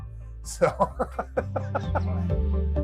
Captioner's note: laughing